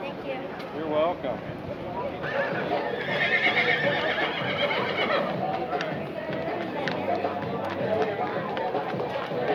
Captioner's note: horse sounds; crowd sounds